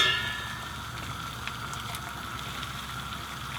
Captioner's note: water boiling